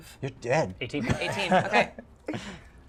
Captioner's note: laughter